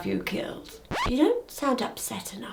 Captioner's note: record scratches